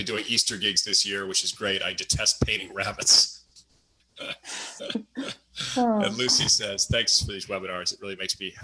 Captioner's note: laughs